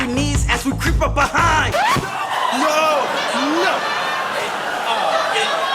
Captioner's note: record scratching